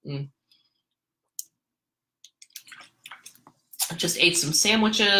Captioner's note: water sloshing